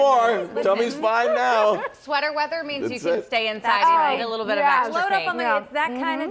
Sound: laughter

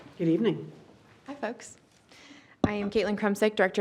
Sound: none

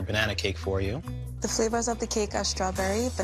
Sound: none

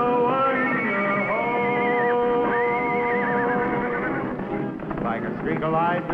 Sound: Champion neighing

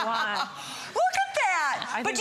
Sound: laughter

